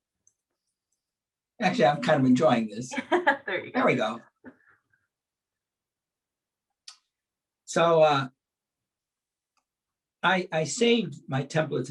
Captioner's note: chuckles